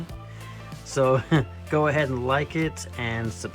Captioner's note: chuckles